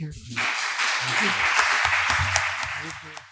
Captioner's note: audience applauding